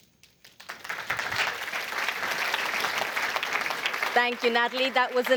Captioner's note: applause